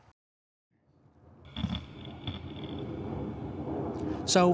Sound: grinding and airplane overhead

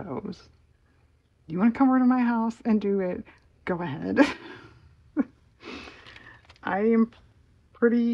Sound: laughs

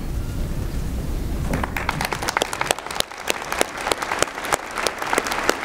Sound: applause

